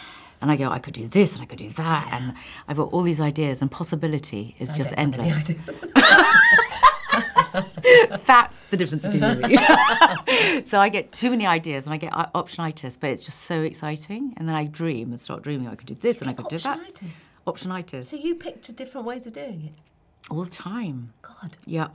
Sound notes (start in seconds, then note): 6.9 laughing